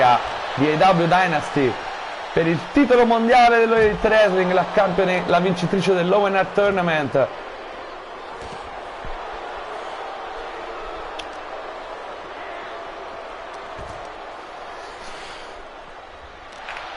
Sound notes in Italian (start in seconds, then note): 12.0 Applauso